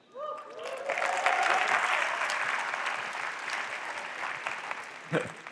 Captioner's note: applause